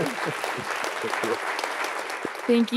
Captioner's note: audience applauding; chuckling